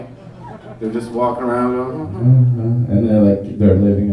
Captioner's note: hums